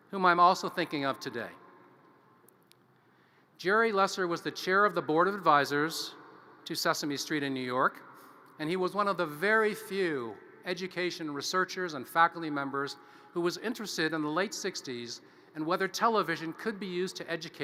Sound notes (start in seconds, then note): none